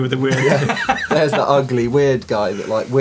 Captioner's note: laughter